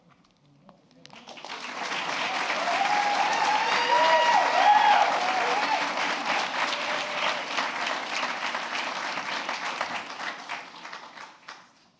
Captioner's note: applause